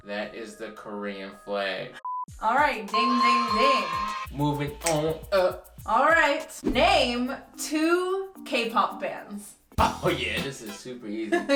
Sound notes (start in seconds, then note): 4.8 snaps fingers; 9.8 laughing